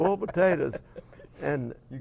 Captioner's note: laugh